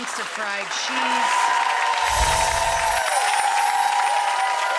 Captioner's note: audience applause